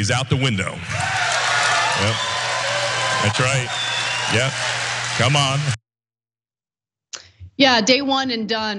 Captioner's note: applause